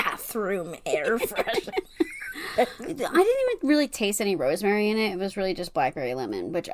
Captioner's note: laughs